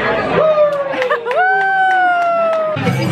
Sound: cheering

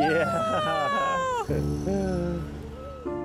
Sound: laughter

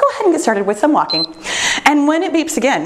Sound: timer beeps

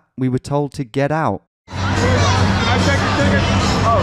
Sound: crowd cheering; upbeat music

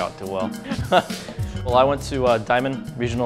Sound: laughs

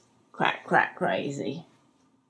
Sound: none

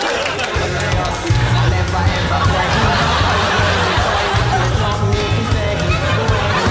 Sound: audience laughs; upbeat music

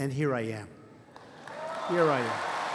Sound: applause

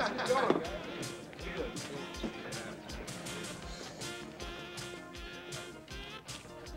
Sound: chatter

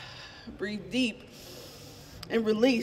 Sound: inhaling deeply

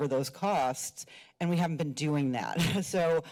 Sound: chuckles

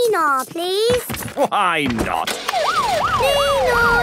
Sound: siren sounding

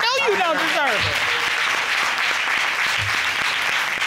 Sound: audience applauding

